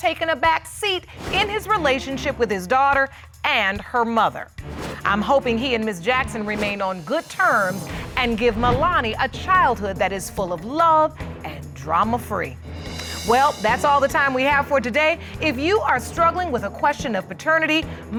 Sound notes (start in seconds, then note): none